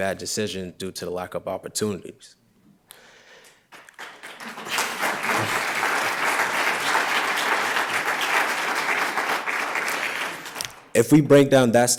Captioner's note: applause